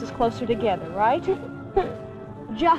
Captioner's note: Gabriella laughs